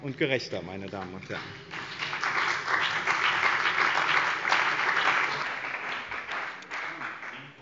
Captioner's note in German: Beifall bei dem BÜNDNIS 90/ DIE GRÜNEN und der CDU